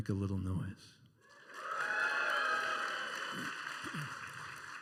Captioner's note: some cheering and applause